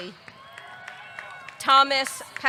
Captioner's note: audience cheering; audience clapping